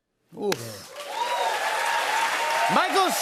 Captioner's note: cheers and applause